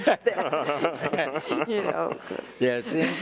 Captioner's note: all laughing